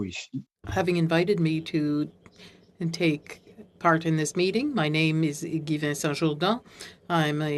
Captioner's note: speaking French